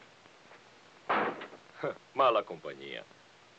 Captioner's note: door thuds